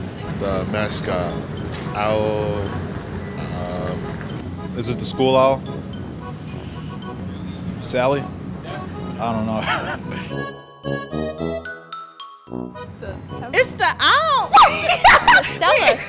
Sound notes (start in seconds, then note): 9.5 laughing; 14.4 laughing